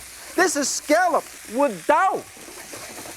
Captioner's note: speaks in foreign language